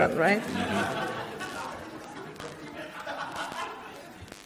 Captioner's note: audience laughs